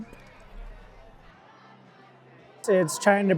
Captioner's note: people chattering